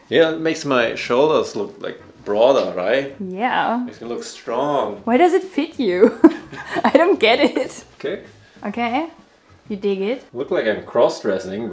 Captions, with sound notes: - Yeah, it makes my shoulders look like broader. - Right? - Yeah. - It makes me look strong. - Why does it fit you? (laughs) I don't get it. - Okay? - Okay. You dig it? - I look like I'm cross dressing,